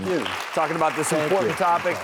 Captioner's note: audience clapping